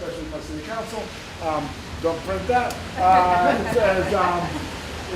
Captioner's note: crowd laughs